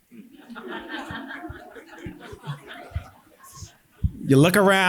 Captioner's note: audience laughing